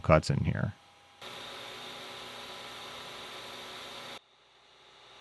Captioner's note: lathe whirring